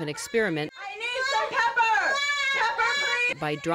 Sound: shouting

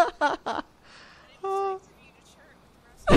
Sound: laughter

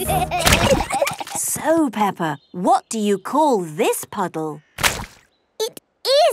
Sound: giggling

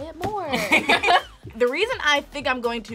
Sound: both laugh

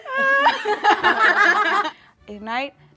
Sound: everyone laughing

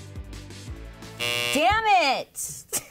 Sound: buzzer buzzing

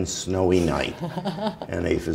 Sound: chuckle

